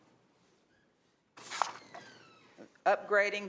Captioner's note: door opens and closes